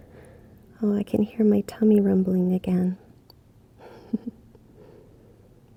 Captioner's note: laughs